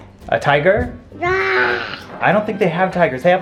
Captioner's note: rawring